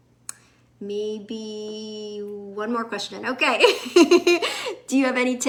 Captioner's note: laughs